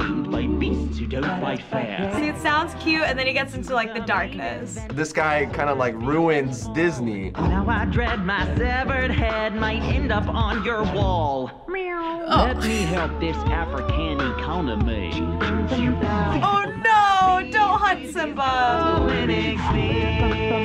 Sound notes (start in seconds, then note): 12.3 chuckles; 12.4 meows